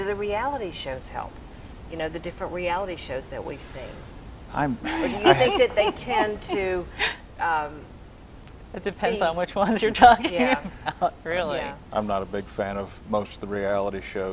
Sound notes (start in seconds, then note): 4.8 giggling